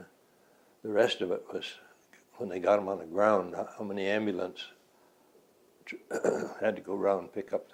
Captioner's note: clears throat